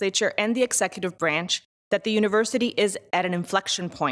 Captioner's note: none